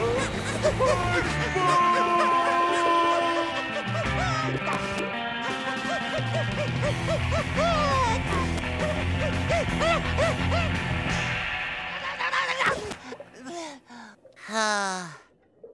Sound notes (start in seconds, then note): 5.5 panting; 12.6 sighing